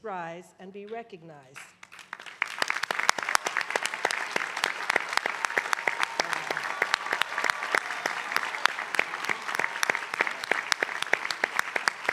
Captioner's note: applause